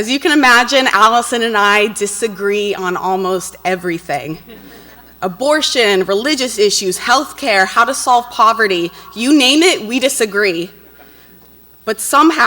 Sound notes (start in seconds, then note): 4.4 audience laughs